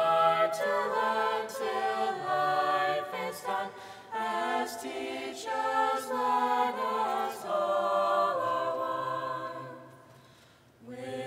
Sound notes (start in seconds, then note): none